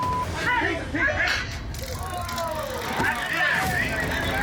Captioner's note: man shouts; taser crackling